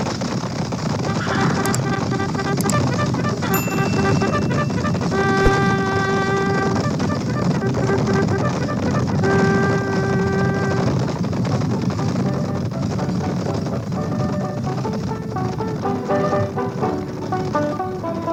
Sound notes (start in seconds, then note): 0.0 horses galloping; 3.5 bell dings; 5.5 horses galloping